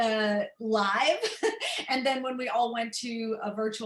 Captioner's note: laughter